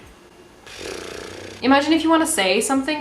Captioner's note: blows raspberries